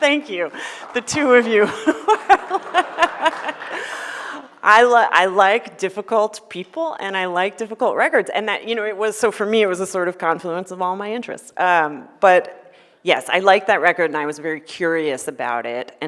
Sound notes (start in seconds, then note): 1.5 laughs